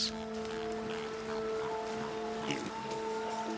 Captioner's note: pig snorting